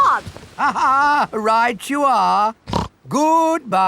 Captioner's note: laughs; snorts